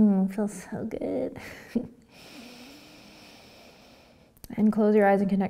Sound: laughing, breathing

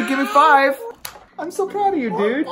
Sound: hand slapping

